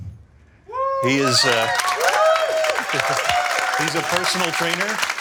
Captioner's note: crowd cheering